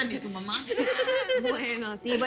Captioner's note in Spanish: Risas